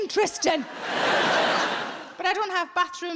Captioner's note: audience laughing